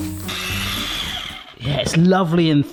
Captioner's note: blender whirring